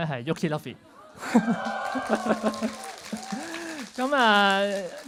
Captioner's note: cheers; laughs